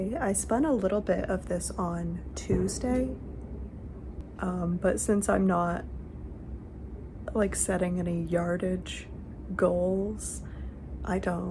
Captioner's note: firework